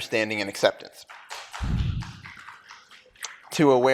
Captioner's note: applause